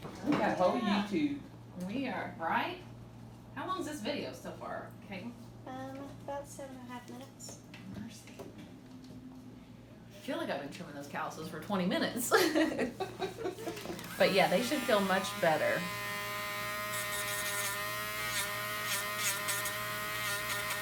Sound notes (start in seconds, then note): 16.3 buzzing